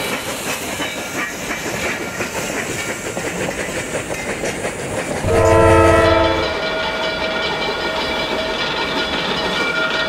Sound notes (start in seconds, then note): 5.2 train horn blaring